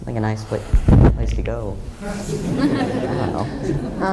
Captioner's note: laughter